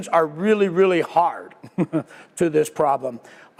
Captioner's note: laugh